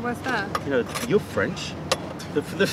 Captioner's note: laughter